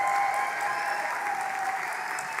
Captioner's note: applause; cheering